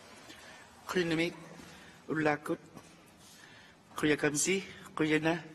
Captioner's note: speaks in a foreign language